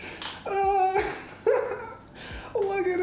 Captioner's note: laughs